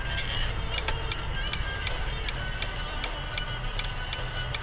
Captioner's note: indicator clicks